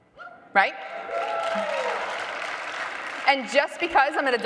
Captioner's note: audience applauding loudly